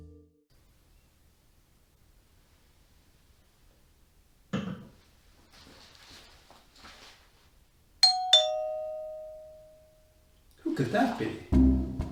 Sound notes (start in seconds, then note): 8.0 doorbell rings; 11.5 tango music